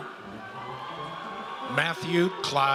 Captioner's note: audience cheers